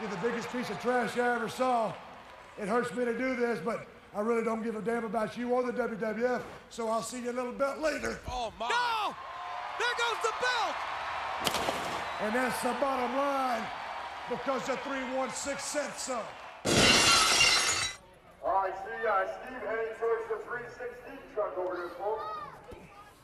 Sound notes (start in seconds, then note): 16.6 glass shatters